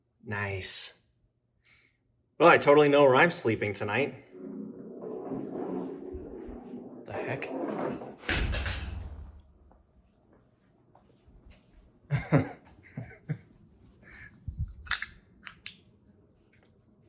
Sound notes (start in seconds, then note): 8.3 flashlight crashes to floor